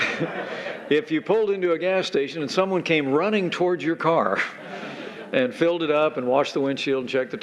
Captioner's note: laughter